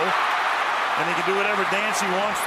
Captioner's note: cheering